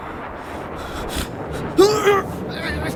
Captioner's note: grunting